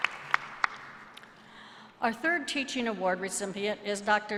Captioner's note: applause